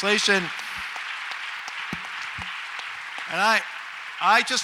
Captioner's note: audience applauds